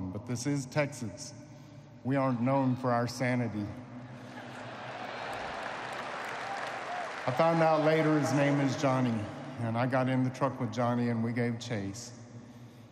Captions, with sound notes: But this is Texas. We are known for our sanity. (Laughter and applause.) I found out later his name is Johnny. And I got in the truck with Johnny and we gave chase.